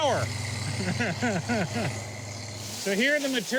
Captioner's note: laughs